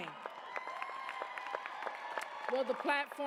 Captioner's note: cheers, applause